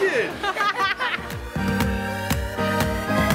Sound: laughing; upbeat electronic music

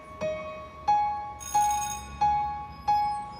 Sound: bell rings; theme music

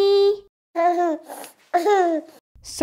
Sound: baby noise

